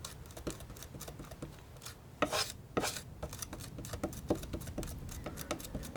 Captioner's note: scratching